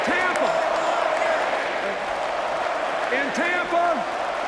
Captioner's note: chanting